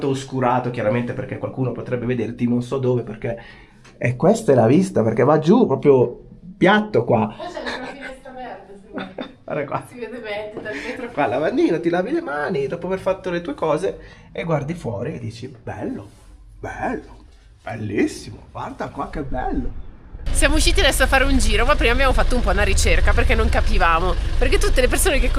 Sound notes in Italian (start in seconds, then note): 8.7 risate